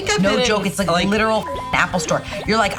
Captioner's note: beep